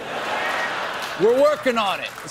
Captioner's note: laughter